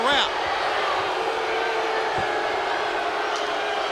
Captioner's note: crowd booing